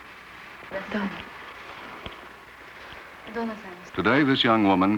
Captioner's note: Japanese speaking